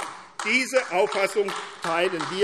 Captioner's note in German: Beifall AfD